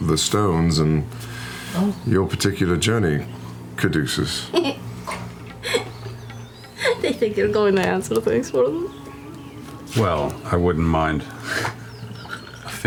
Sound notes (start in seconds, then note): 6.5 giggles